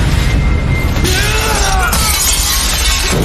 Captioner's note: Danny yells